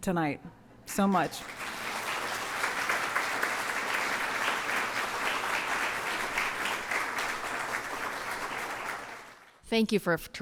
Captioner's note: applause